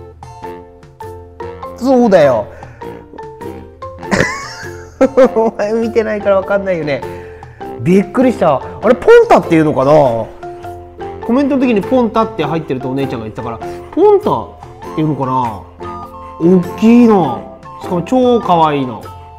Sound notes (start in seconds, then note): 4.0 laughs